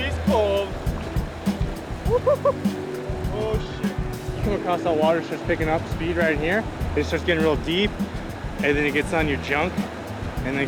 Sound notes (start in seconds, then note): 2.0 whooping